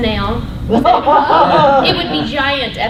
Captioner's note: laughter